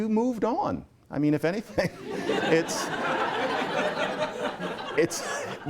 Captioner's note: laughter